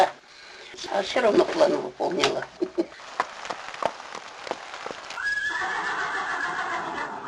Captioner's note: horse neighing